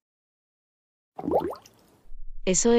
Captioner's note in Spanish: FX - Water Bubble